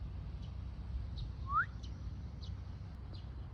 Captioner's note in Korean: 휘파람